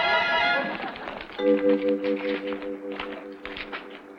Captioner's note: playful music; footsteps pattering